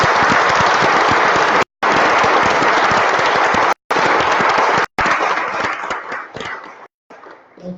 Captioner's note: applause